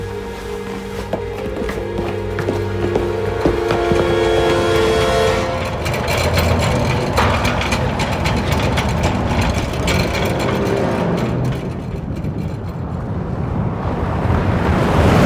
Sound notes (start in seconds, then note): 1.6 ominous music; 5.2 cart rattling